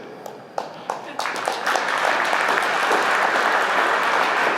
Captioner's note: applause